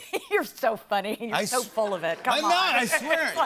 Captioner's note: laughs